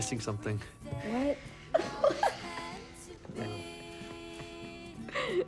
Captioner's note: laughs